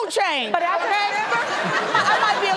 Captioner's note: audience laughs